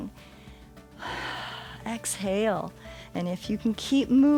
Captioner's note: exhales